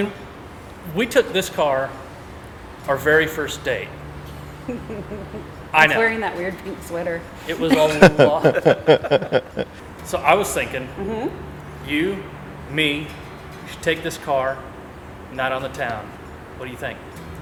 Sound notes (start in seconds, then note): 4.6 woman laughing; 7.4 all laughing